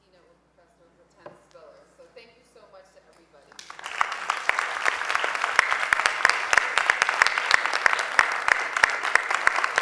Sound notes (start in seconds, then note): 3.5 applause